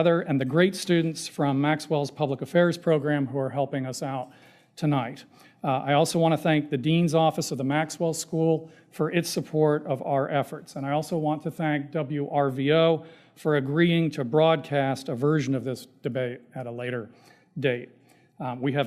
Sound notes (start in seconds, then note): none